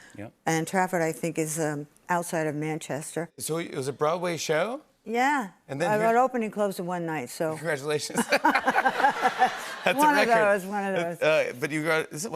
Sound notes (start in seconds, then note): 8.1 laughter